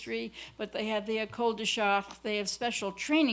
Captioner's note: french